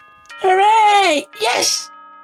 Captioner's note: clapping and drooling with one tooth